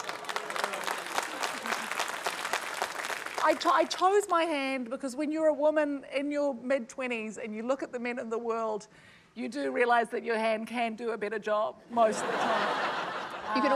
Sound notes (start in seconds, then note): 0.0 applause; 12.0 laughter